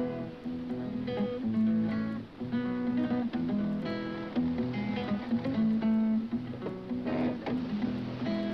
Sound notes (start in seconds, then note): 3.7 engine rumbles